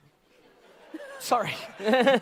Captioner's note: audience laughter